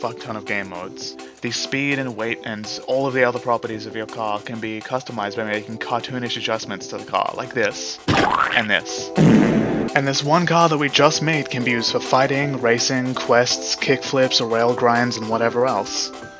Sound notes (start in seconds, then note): 8.0 splat; 9.1 fart with reverb